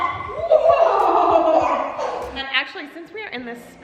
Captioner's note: laughs